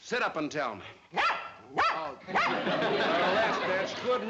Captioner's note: dog barking